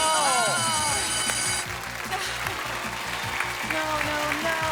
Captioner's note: bell ringing